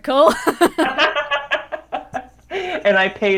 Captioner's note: both laugh